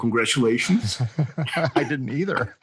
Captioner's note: laughter